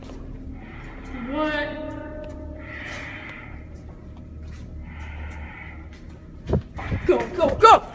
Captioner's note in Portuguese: suspirando